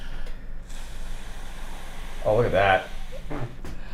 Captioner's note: blows air